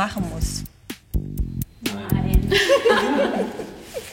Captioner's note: laughter